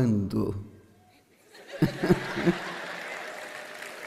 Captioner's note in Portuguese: audiência ri